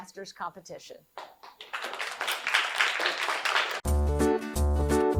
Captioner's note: audience applauding; upbeat music